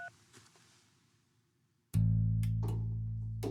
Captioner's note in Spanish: Sonido al marcar